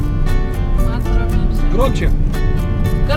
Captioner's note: murmuring